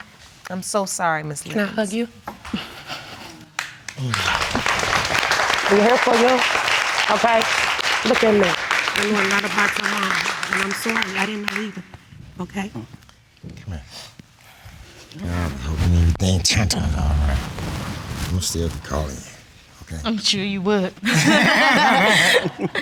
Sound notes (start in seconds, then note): 3.7 audience applauding; 21.0 both laughing